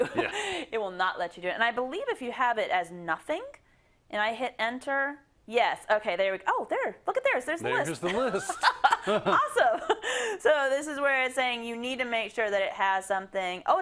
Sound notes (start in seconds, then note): 8.0 laugh